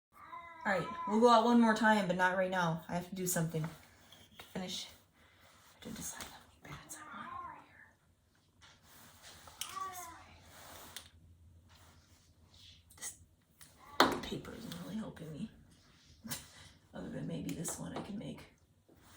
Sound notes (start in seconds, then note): 3.2 meowing in background; 7.1 meowing in background; 10.9 meowing in background; 15.2 meowing in background